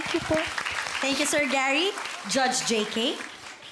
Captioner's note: audience applauding